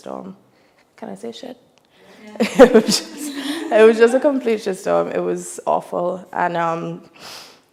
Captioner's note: laughs